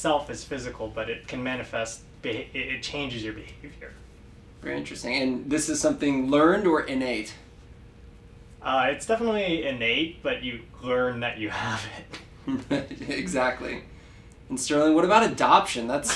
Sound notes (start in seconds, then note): 12.4 laugh